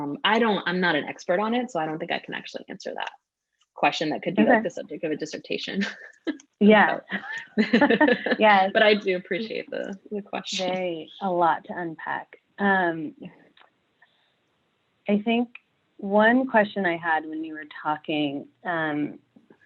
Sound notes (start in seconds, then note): 6.9 laughing